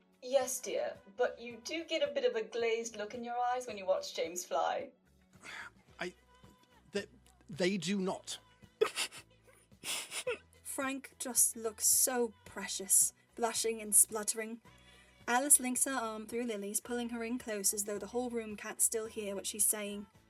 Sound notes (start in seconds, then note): 5.0 lets out a series of mortified choking noises; 8.8 giggling